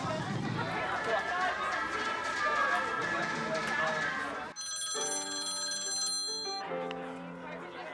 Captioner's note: phone ringing